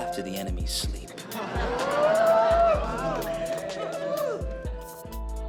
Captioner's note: laughter and whooping